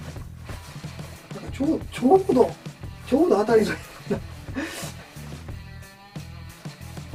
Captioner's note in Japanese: 笑い